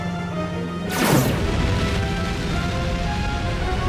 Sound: zaps

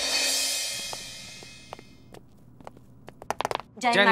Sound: footsteps

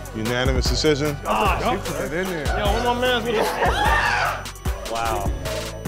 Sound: screaming

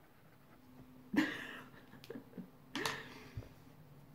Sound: laughs

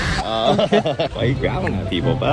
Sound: growling

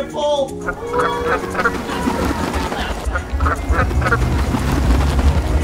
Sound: ducks quacking

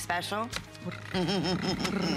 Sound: laughter

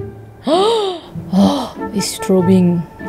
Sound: loud gasp

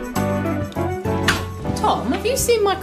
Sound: kindly gentle door slam

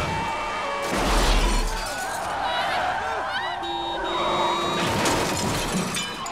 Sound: horn blaring; metal crashing

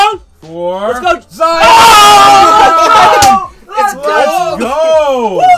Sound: screaming

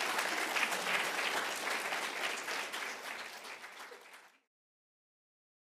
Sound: applauds

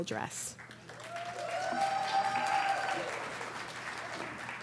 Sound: applause

